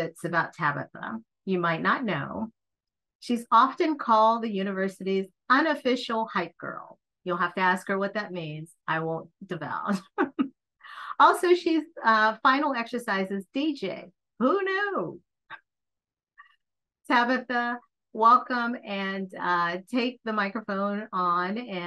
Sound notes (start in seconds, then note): 10.0 chuckles